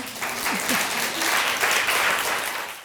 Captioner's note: audience clapping